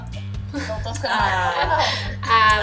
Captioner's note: laughter